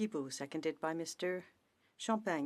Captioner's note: speaking French